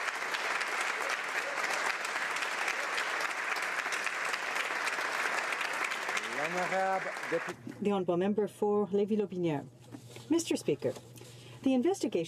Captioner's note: applause